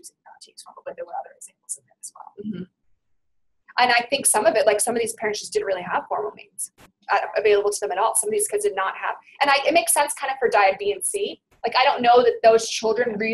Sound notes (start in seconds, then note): 2.5 voiceover